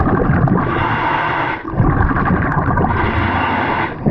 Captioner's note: bubbles gurgling